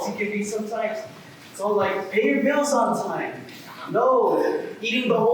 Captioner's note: rambling